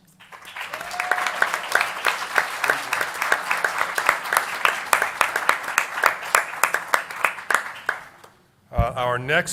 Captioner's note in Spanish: Aplausos